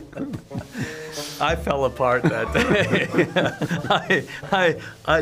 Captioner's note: both laughing